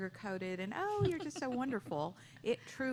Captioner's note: laughter